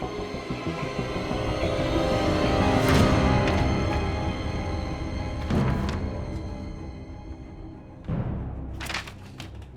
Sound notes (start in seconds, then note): 1.1 dramatic music; 5.4 pages flipping